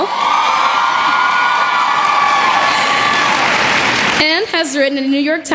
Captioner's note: cheering and Applause